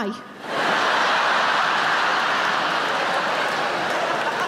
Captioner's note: audience laughing